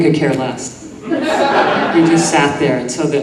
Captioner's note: audience laughing